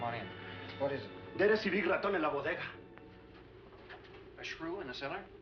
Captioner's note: speaking spanish